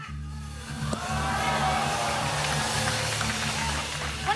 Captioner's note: audience groans